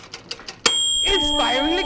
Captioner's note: ding!